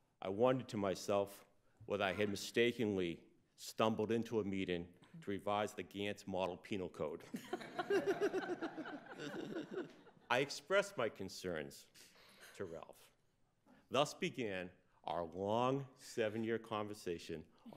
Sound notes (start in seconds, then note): 7.4 laughs